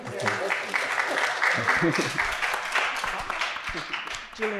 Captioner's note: audience applauding